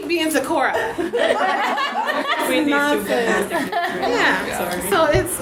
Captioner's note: audience laughs